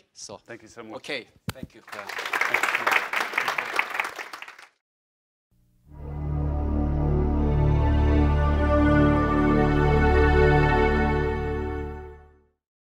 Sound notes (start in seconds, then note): 1.8 audience applauding; 5.9 upbeat music